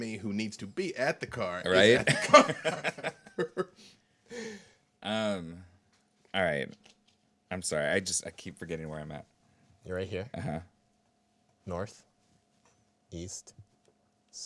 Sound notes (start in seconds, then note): 1.8 group chuckling